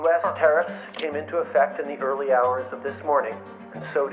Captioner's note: Justin Trudeau speaking